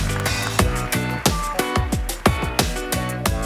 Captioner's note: applause